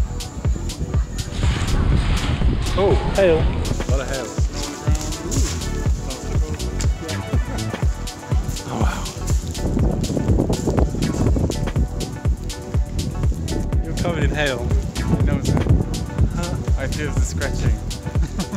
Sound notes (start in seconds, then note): 5.0 hail clattering; 9.7 wind blowing